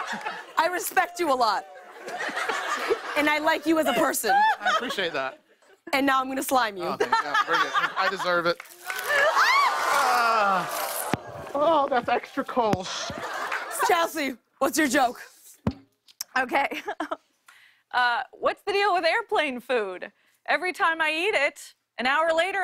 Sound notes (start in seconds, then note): 0.0 laughter; 1.8 laughter; 8.6 cheers and applause; 16.4 chuckles